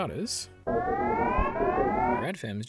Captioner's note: divers alarums